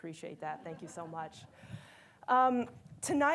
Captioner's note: attendees laughing